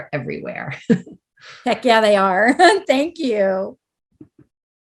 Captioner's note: laughs